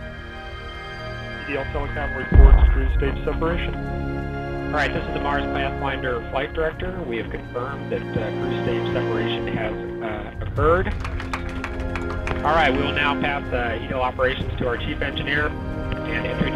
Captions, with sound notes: - All right, this is the Mars Pathfinder Flight Director. We have confirmed that Cruise Stage separation has occurred. (team claps) - Alright, we will now pass you know, operations to our Chief Engineer and